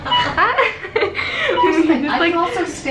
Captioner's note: laughs